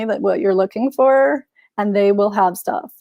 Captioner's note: none